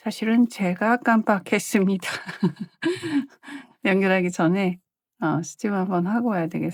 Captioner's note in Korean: 웃음